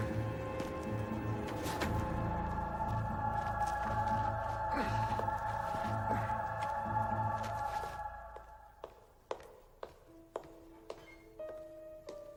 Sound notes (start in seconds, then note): 0.0 dirt crunches; 4.9 David grunts; 8.4 footsteps echo